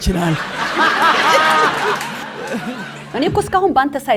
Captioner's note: laughter